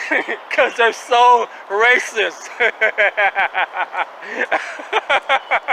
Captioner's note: laughing